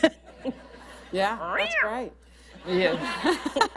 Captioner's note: laughter; makes a cat noise; laughter